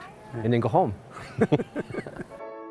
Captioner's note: laughter